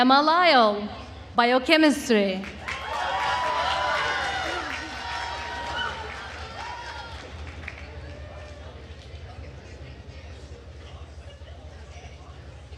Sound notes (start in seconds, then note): 2.4 attendees cheering and applauding